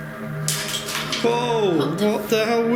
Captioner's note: eerie music; clattering